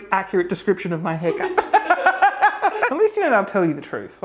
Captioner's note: laughs